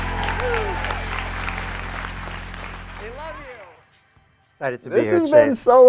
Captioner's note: audience applauding